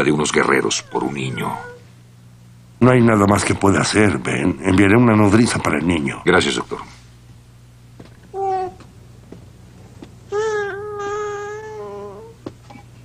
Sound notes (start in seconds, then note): 8.3 baby cooing